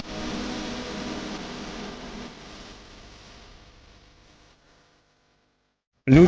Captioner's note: the crazy silence